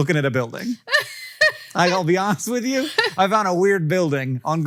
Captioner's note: Rachel laughs